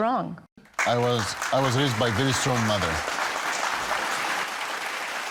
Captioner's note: audience clapping